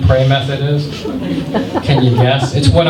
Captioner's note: laughter